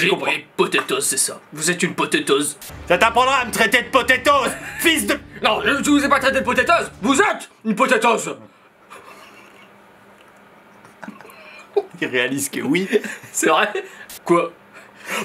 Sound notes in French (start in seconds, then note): 5.4 voix grave; 11.1 rire